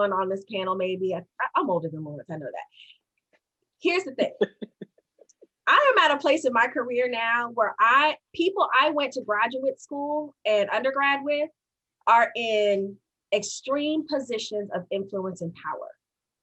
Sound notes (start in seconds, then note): 4.2 laughs